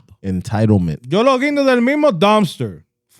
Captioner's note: speaking In Foreign Language